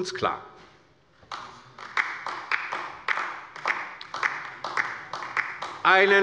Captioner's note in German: Beifall bei der LINKEN